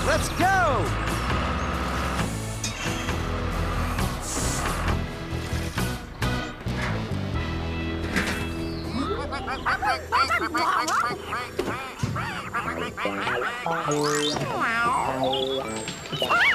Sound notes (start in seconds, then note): 4.0 engine Running; 8.8 ducks Quacking